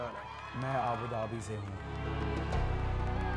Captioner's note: man speaks foreign language